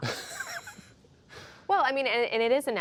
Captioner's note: laughter